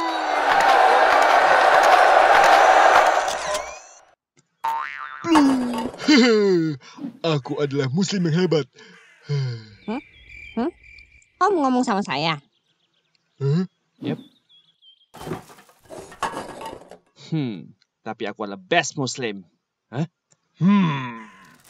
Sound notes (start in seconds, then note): 0.0 audience cheering; 10.0 cricket's Noise